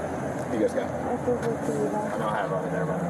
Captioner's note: speak in Foreign language